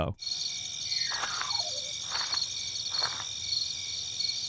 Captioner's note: insects chirping